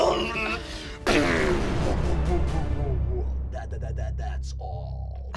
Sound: splattering

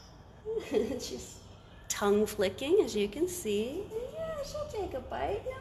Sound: laughs

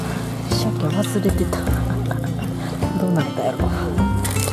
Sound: laughs

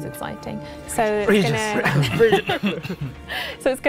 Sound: cough

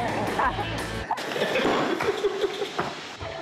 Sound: men laughing

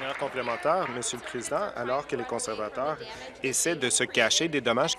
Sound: applause

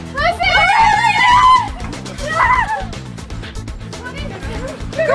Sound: family squealing

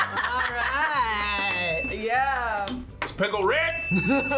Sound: bell rings

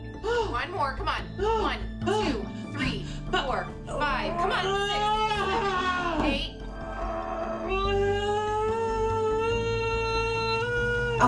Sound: moaning and panting...moaning and panting

